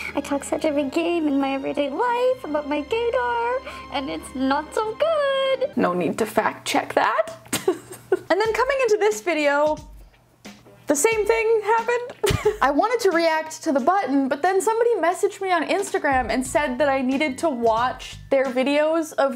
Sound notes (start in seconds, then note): 5.9 normal voice; 7.5 laughing